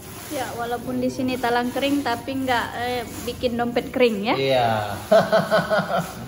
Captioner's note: laughs